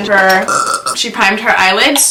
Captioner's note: burps